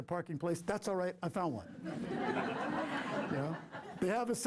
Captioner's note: laughter